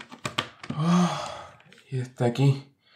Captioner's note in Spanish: Suspiro de satisfacción